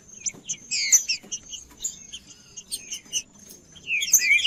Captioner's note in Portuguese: trinca ferro cantando